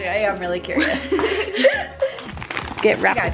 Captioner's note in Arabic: ضحك